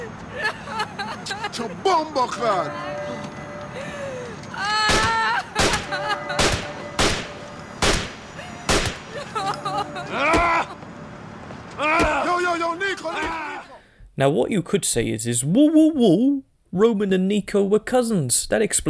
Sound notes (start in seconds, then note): 5.5 gunshot 2; 6.2 gunshot 3; 9.9 kicking